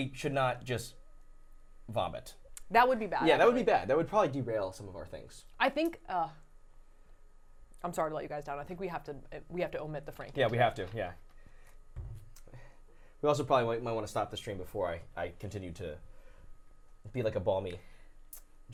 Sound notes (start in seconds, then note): none